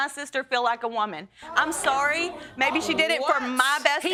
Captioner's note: audience gasps